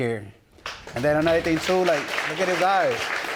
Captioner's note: audience applauding